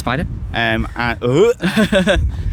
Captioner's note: gags